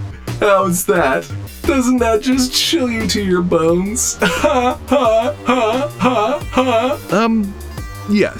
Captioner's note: robotic laugh